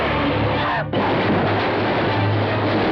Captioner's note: crashing noise